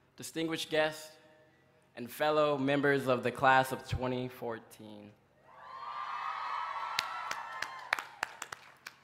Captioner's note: applause